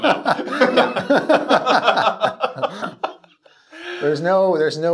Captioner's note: both laughing